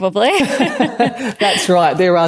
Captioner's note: laugh